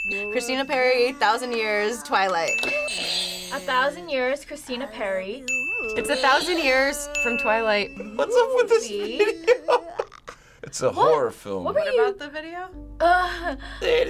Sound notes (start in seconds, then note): 2.4 audio dings; 5.5 audio dings; 9.8 laughing; 13.2 gasping